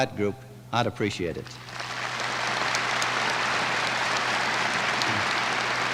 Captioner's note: applause